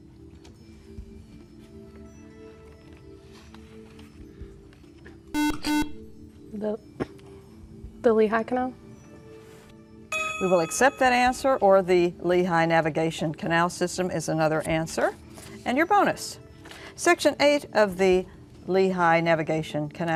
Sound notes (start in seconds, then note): 5.3 buzzer